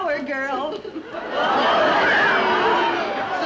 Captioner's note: audience laughing